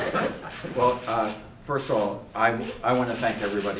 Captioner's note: laughter